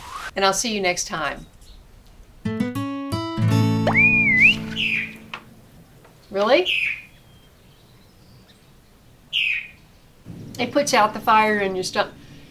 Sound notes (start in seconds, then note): 3.8 short whistle logo; 3.9 bird shriek; 6.5 bird shriek; 9.3 bird shriek